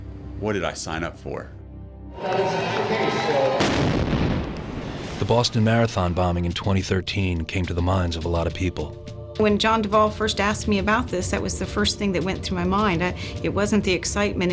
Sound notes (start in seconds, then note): 3.5 bomb; 5.2 voiceover